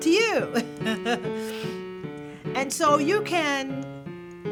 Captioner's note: laughter